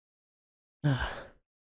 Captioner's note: sighs